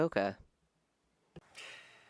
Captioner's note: speaking French